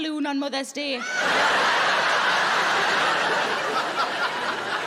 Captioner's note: audience laughing